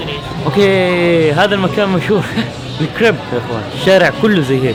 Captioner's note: laughing